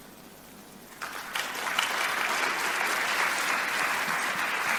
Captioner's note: audience applauds